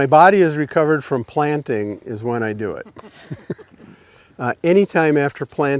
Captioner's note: chuckles